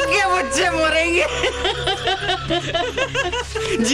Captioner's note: Laughs